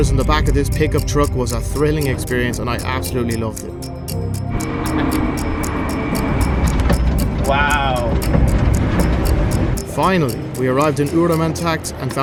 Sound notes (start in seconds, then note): 4.0 car engine sputtering